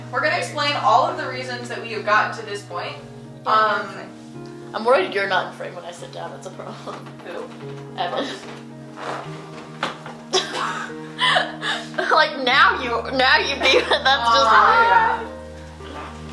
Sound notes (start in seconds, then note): 9.4 chair creaks; 9.4 laughter